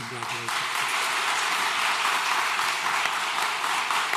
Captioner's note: applause